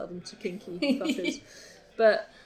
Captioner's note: laughs